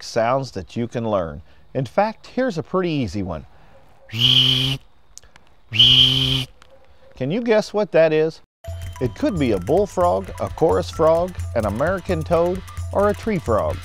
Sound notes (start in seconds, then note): 4.0 wildlife call